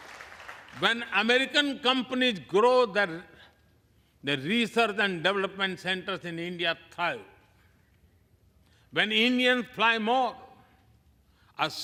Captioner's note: applause